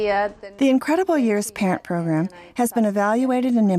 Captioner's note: voiceover